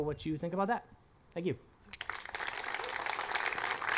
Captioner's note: applause